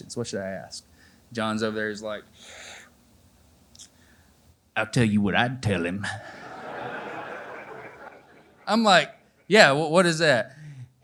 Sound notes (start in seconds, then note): 2.0 in Southern Accent